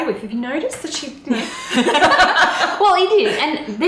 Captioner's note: both laughing